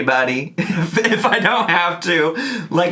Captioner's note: giggles